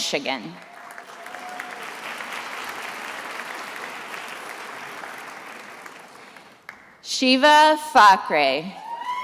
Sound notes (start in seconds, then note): 0.5 attendees applauding